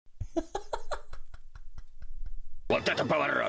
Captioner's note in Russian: смех